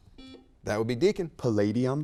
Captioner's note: buzzer beeps